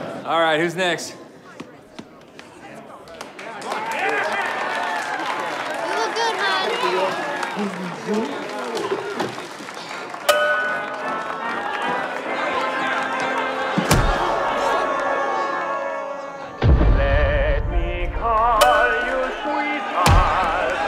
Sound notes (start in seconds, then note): 3.6 crowd applauding; 7.3 groaning; 13.6 crowd